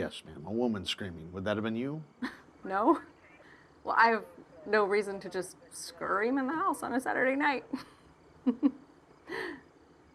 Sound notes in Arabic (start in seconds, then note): 8.4 يضحك